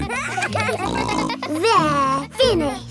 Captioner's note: kids giggling